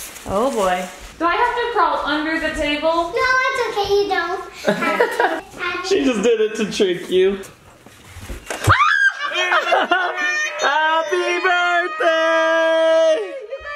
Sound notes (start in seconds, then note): 8.6 screams; 8.8 laughs